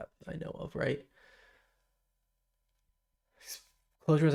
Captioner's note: silence